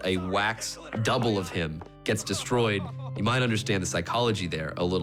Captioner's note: crying